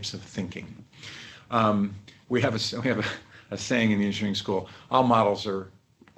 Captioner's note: laughter